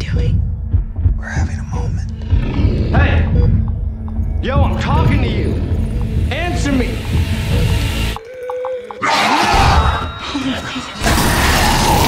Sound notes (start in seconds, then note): 9.0 gurgling scream